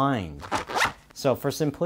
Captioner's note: unzips